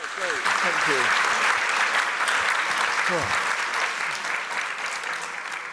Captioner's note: applause